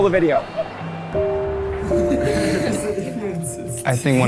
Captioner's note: gentle instrumental music; students laughing